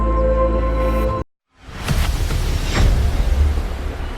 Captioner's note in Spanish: Bullicio